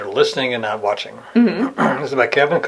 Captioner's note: clears throat